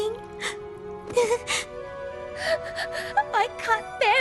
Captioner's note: sobbing